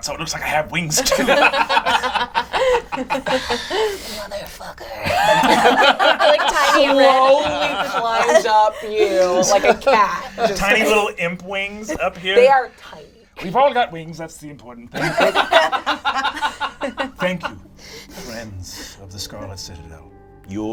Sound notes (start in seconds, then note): 0.9 all laugh; 2.5 sighing; 5.0 all laugh; 15.0 all laugh